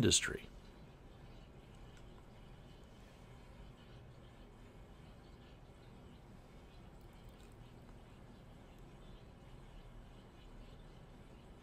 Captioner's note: pause